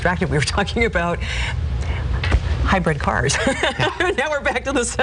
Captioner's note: laughing